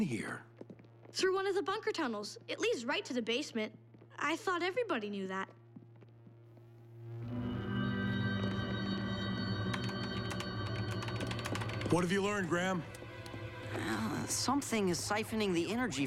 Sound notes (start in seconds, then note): 9.6 keypad clacking